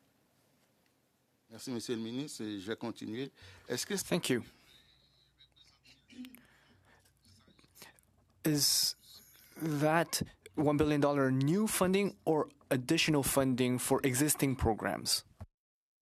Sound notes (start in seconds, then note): 6.0 speaking French